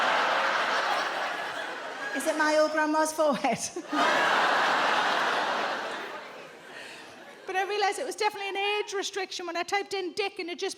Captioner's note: audience laughs, groans; audience laughs